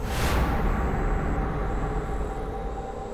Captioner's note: whispering stops